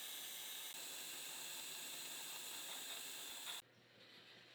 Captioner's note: machine whirring